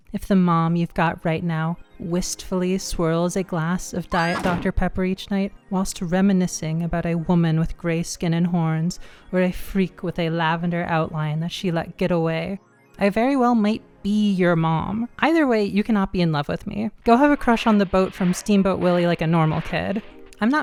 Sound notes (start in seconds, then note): 4.1 woman screaming; 4.2 thud